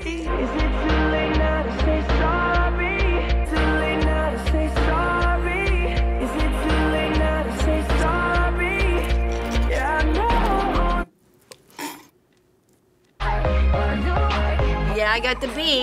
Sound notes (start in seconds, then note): 9.1 sobbing softly; 10.9 music stops abruptly; 11.4 tsks